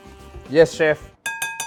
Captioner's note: clink